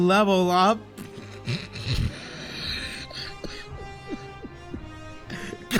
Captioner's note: wheezes